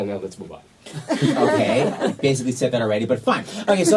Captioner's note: background laughs